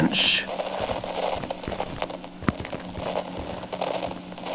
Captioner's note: walking fx